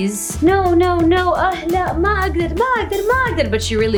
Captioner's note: foreign language